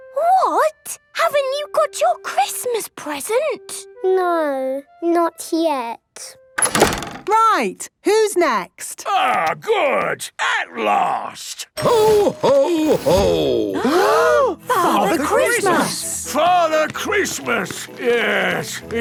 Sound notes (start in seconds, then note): 6.6 doors slamming